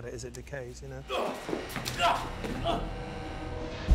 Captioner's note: grunting